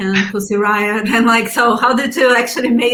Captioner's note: laughs